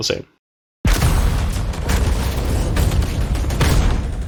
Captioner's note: gunshots and explosions